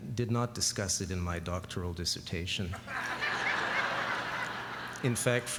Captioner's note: laughter